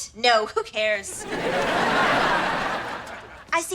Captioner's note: audience laughter